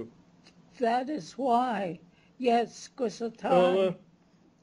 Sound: non-english speech

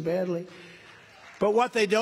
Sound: applause

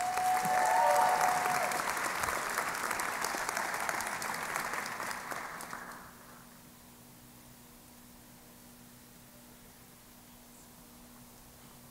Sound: cheering and Applause

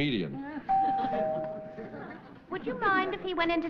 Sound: doorbell

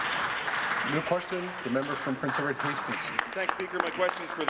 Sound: applause

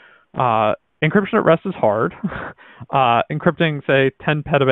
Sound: laughs

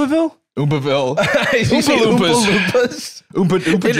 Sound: laughing

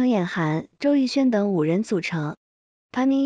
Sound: Korean

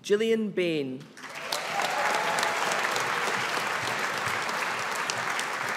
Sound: audience applauding

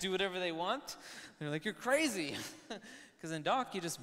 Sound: chuckles

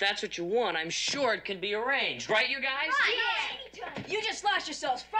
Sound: agreements muttered

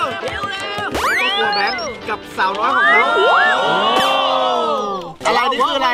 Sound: cheering

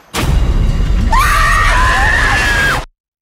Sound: screams

